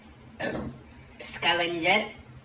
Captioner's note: Burps